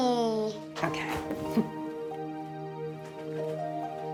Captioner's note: laughs; calm music